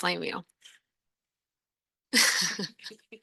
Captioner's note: laughing